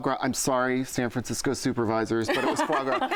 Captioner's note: laughter